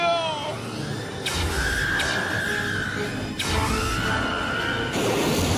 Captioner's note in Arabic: صراخ